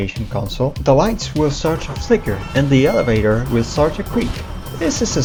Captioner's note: slowly fading creak